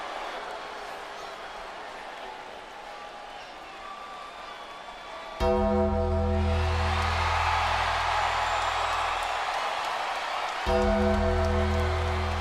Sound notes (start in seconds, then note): 5.4 gong rings; 7.1 crowd cheers